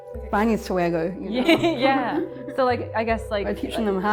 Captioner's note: laughs